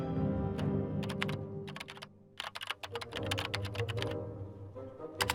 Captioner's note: bold music; keys tapping